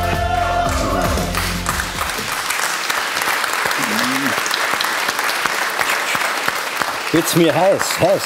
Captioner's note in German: Applaus